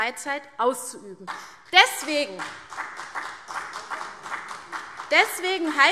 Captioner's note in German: Beifall CDU und vereinzelt BÜNDNIS 90/DIE GRÜNEN